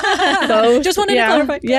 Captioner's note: laughing